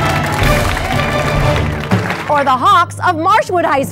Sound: applause

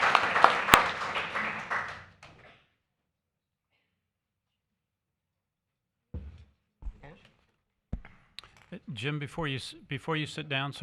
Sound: applause

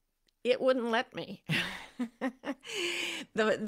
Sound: laughs

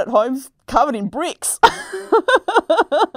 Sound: laughs

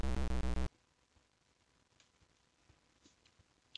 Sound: silence

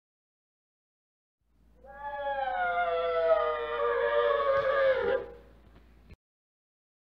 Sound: chilling sound

